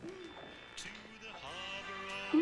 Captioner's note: turns radio on; radio humming, buzzing